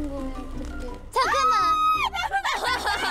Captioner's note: screams